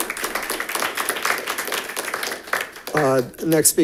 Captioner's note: audience applauding